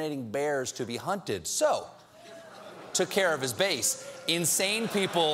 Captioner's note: cheers and applause